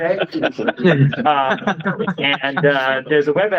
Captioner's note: laughter